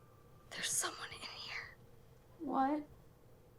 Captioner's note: whispers